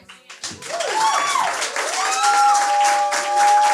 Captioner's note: audience cheering; audience clapping